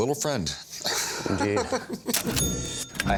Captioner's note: laughs; ca-ching